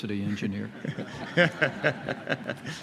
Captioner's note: laughter